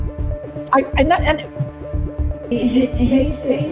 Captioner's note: echoes; stammers